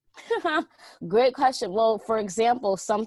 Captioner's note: laughs